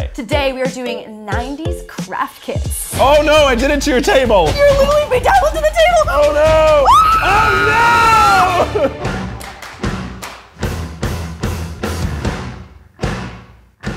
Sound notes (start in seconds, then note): 6.8 screaming; 9.2 rock music